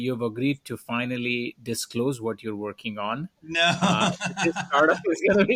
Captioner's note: laughs